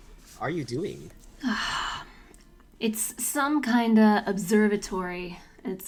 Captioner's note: long sigh